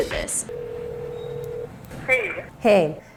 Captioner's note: cellphone ringing